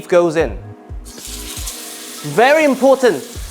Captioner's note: sizzling sound